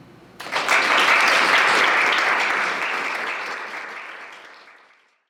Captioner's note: audience applauding